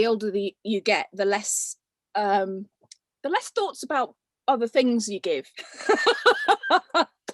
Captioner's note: laughs